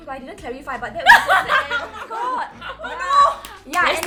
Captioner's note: laughs